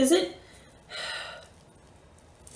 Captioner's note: sigh